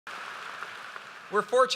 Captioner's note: applause